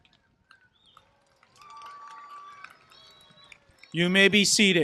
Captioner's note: applause